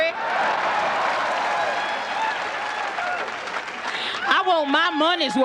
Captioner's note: audience cheering